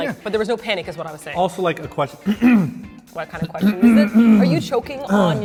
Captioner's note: cough